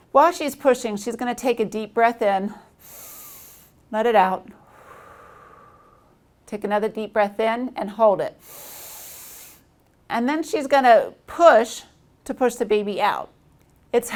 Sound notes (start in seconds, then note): 2.6 inhales; 4.6 exhales; 8.4 inhales